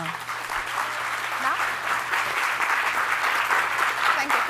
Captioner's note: applause